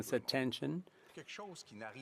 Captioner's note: speaking French